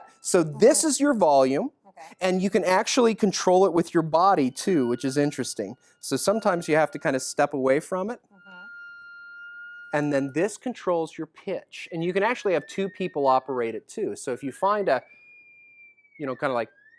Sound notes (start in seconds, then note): 8.3 high frequency sounds